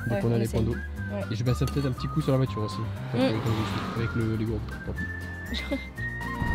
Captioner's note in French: rire